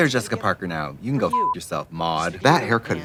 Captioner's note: beeping